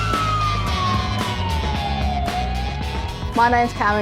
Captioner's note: sirens wailing